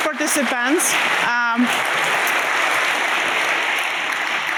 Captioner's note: applause